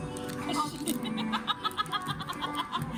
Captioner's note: her laughter is killing me